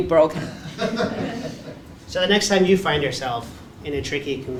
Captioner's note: laugh